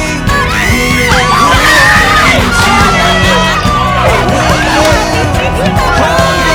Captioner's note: cheering